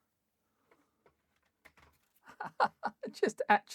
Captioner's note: laughs